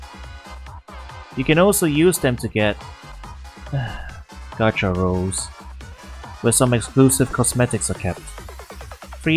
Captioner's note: sigh